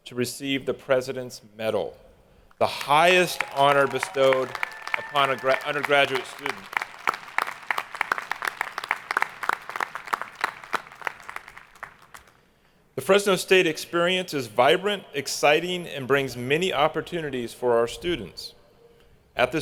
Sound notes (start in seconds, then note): 7.0 hands clapping; 7.0 people cheering